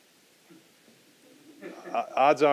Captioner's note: audience laughing